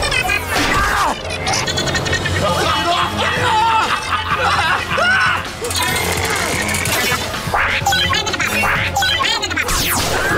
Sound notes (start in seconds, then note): 2.0 laughing, screaming